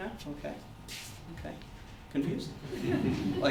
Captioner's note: audience laughter